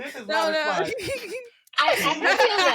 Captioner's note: laughter